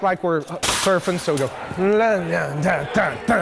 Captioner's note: makes</b> <b>drumming sounds